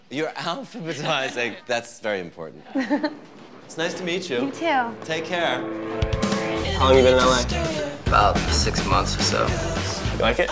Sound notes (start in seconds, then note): 2.7 Lauren chuckles